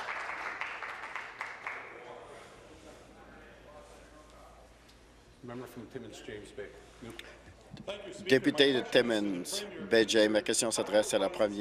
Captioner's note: applause